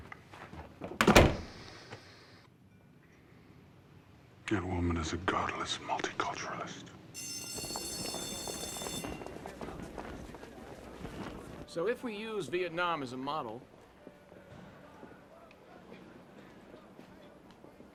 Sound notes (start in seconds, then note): 0.9 door Slams; 7.1 school Bell Ringing